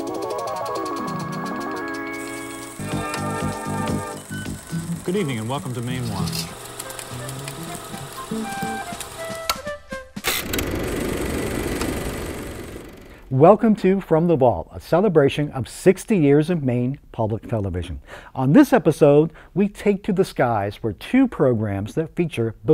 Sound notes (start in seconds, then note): 0.0 mysterious music; 6.6 upbeat music; 8.0 projector clicking